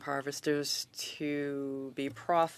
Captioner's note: speaking French